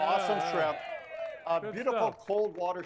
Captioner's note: crowd cheers